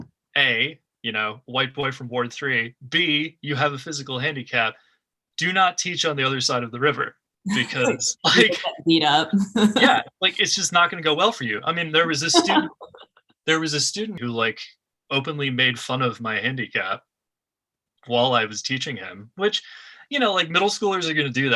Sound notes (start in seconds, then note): 7.5 laughs; 13.2 laughter